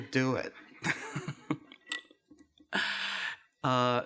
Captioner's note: laughs